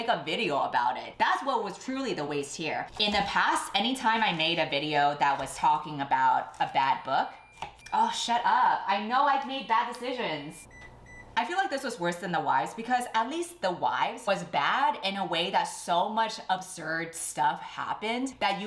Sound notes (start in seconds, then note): 7.2 beeping sounds